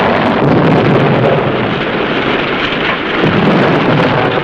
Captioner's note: engine rumbles; ammunition explodes